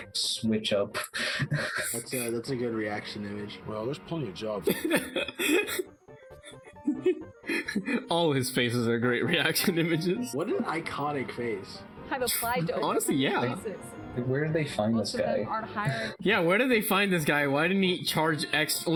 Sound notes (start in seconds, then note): 0.9 chuckles; 4.6 laughs; 7.4 laughs